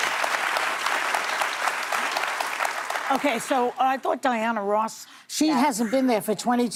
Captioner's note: applause